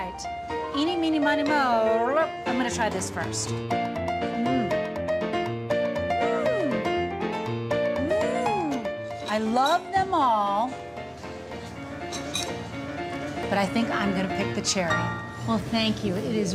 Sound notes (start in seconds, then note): 4.2 mmmm!